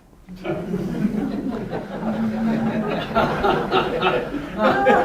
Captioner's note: students laughing